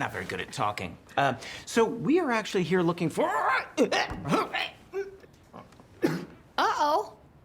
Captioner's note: coughs